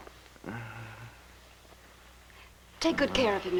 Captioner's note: groaning